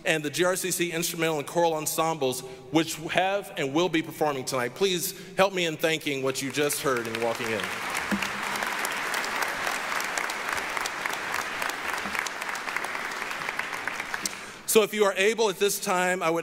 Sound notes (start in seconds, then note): 8.5 applause